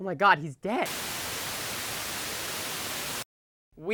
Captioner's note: static